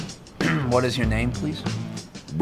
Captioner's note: clears throat